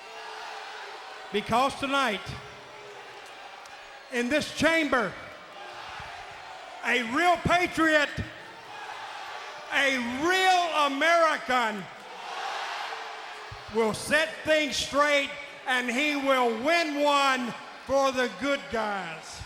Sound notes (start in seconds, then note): 0.1 crowd exclaiming; 8.7 crowd exclaiming; 12.2 crowd exclaiming